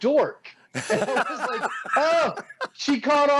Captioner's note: laughing